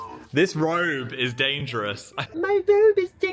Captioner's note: laughs